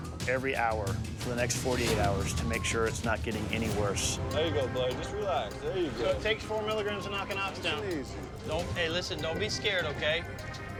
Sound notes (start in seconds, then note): none